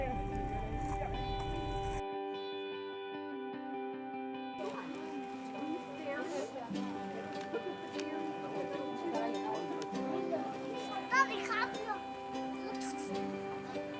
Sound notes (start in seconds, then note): 4.6 indistinct chattering